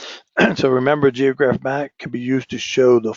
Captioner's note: cough